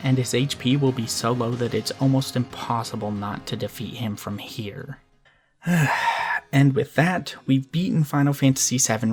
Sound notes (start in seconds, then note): 5.6 sigh